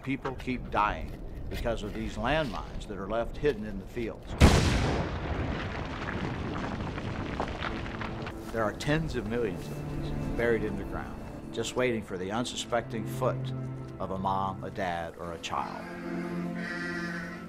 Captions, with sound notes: people keep dying because of these landmines that are left hidden in the fields. (Sound of explosion.) There are tens of millions of these buried in the ground just waiting for the unsuspecting foot of a mom, a dad or a child.